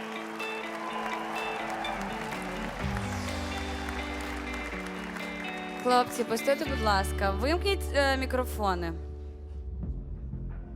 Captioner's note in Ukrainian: оплески